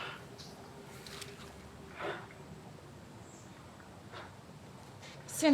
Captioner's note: breathes heavily